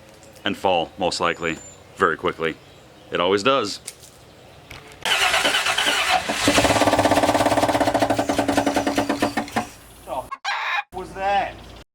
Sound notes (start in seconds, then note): 5.0 starting Car; 6.2 bad knocking engine noise